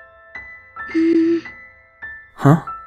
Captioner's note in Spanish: Murmullos de rubia avergonzada